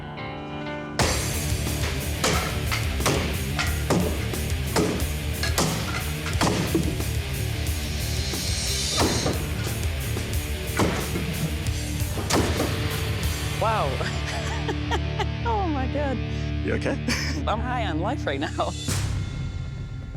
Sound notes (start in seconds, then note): 1.0 wood chopping; 13.7 laughs